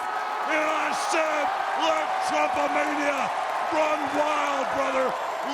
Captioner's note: cheering